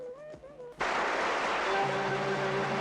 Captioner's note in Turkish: alkiş sesleri̇